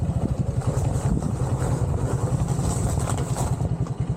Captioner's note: crunching on gravel